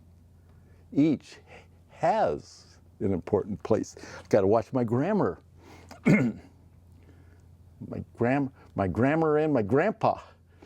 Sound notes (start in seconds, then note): 5.8 coughs